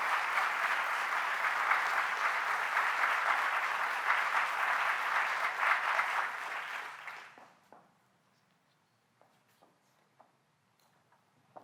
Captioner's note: applause